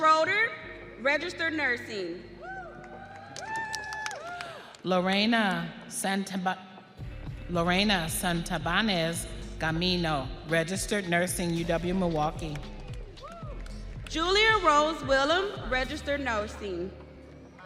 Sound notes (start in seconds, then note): 4.1 audience cheering; 12.6 audience applauding